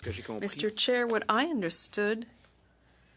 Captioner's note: speaking French